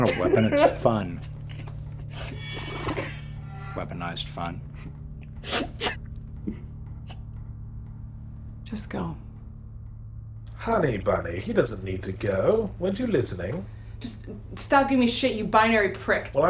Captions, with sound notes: - It's not a weapon, it's fun. Weaponized fun. (crying) - Just go. - [Voiceover] Honey bunny, he doesn't need to go. Weren't you listening? - Stop giving me shit, you binary prick.